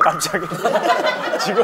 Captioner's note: laughing